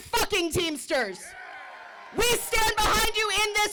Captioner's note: group cheering